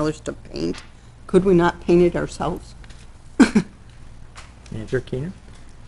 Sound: laughing

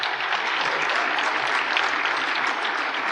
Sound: applause

